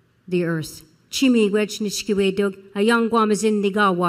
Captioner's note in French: Parlant Anishinaabe